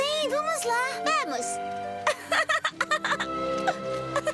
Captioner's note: giggling